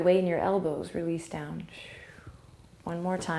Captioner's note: breathing